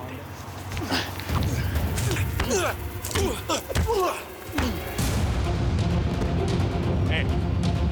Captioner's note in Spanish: golpes y exclamaciones